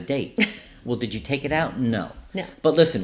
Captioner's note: laughing